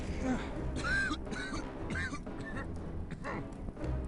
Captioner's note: coughing